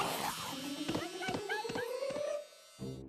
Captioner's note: snarling; yelping